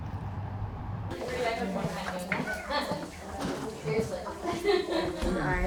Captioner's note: people chattering